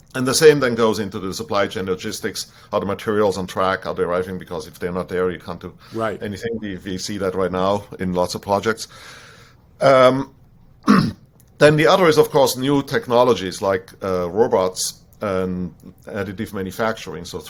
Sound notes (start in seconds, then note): 10.8 clears throat